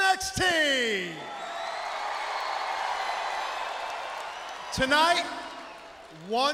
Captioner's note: crowd cheering